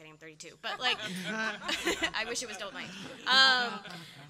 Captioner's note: laughter